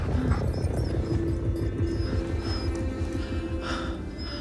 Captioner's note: whimpering